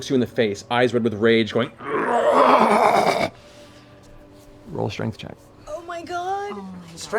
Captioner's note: growl